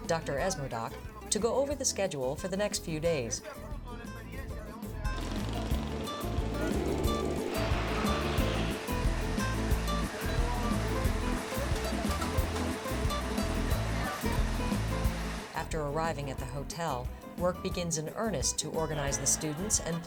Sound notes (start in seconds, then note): 3.7 speaking in Spanish; 5.5 upbeat Spanish music